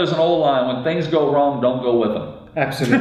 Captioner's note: laughs